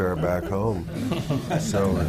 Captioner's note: laughter